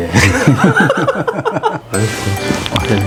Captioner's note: haha